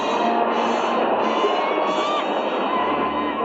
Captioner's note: bird shrieking